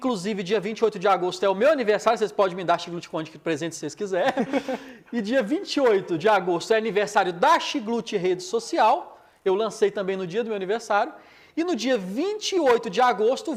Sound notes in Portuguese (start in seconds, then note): 4.2 risadas